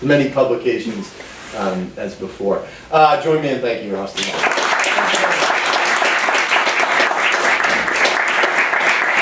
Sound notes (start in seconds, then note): 4.2 students applauding